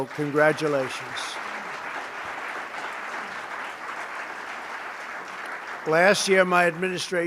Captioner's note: applause